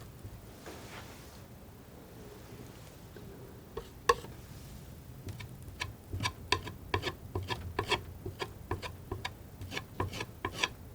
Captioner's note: tapping